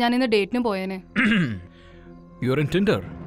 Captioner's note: Clearing throat